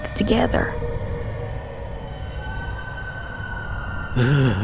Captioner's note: monster howls